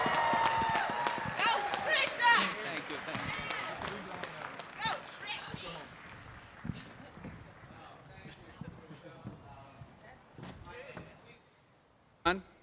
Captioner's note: applause